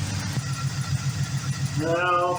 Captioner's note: engine idling